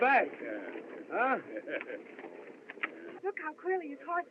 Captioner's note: Flack Chuckles